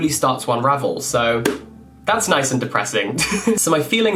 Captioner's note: laughs